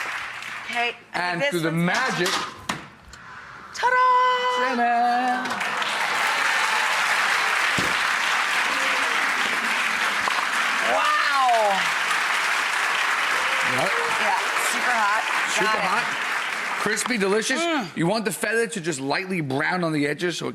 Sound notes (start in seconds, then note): 5.7 audience applauds